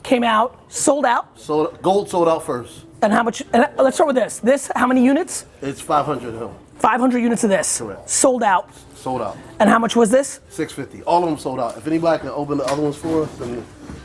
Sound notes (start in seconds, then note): none